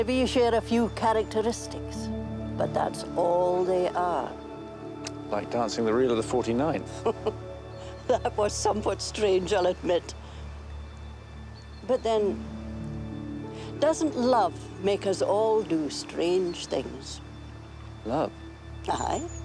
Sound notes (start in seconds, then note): 6.8 laughs